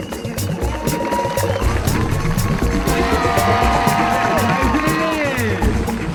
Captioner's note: lively music; audience cheering and applauding; music drowns out announcer